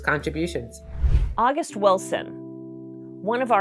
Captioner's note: computer whooshing